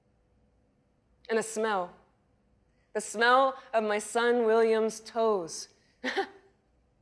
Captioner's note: laughs